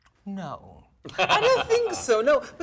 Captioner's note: laughing